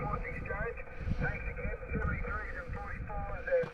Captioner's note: signal fading